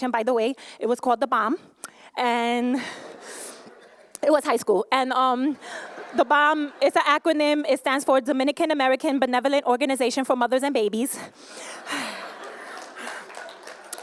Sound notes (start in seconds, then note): 2.8 laughter; 12.4 applause